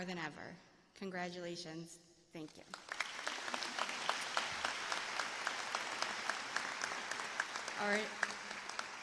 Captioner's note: applause